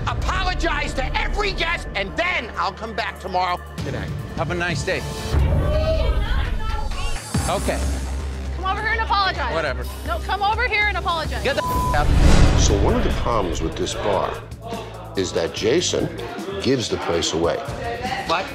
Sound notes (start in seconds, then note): 5.9 crowd murmuring; 11.5 beep